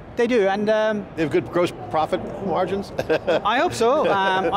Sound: laughing

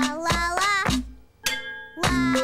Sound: clang

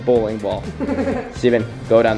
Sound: giggling

